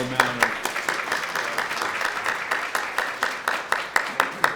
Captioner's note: applause